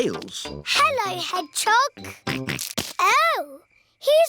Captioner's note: snorts